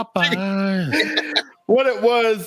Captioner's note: laughs